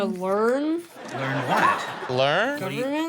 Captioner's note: audience laughing